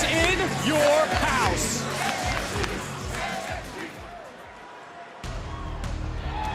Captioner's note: crowd chants "nxt"